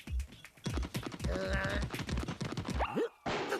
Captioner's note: grunting